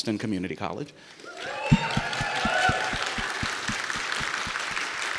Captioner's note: audience cheers